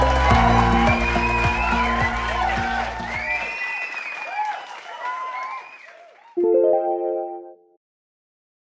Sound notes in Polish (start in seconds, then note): 0.0 Aplauz